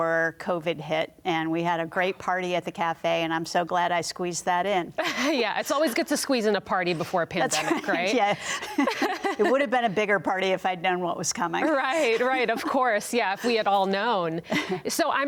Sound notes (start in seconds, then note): 11.6 laughs